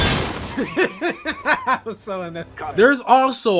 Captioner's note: laughs